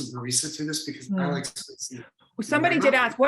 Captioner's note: faintly speaking